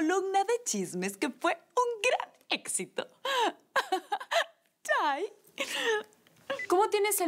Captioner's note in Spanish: Risas